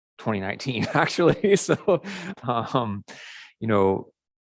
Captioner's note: man chuckles